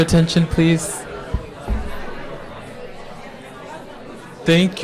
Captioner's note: crowd discussing